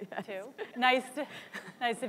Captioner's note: laughs